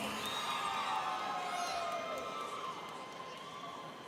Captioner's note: students cheering